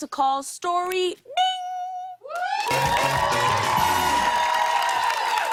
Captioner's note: cheers and applause